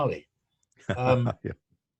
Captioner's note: laughing